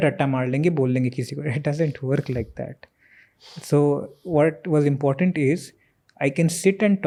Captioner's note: speaks in Hindi